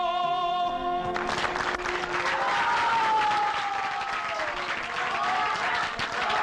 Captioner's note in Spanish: Aplausos